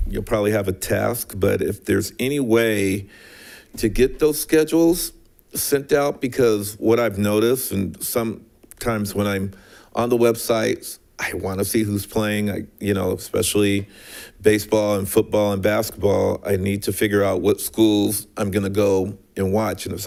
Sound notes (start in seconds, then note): none